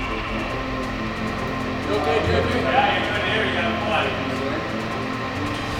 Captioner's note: workers conversing